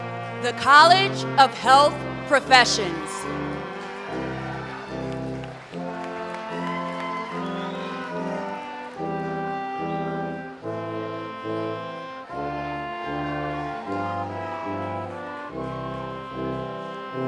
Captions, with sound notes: The College of Health Professions. [CHEERING AND APPLAUSE]